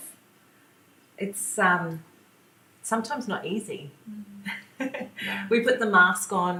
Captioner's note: laughs